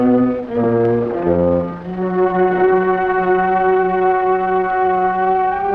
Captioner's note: hidden door opening